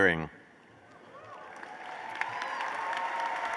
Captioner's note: applause